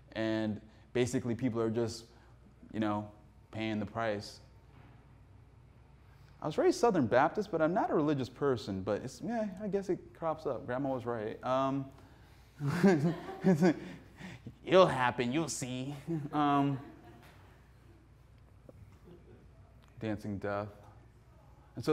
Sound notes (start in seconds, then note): 12.6 laughs; 12.7 audience laughing; 16.2 audience laughing